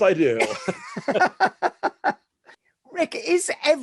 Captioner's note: both laughing